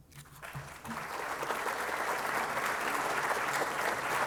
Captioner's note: applause